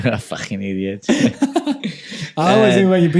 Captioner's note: laughing